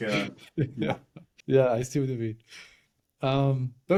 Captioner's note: laugh